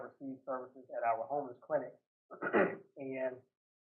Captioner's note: clears throat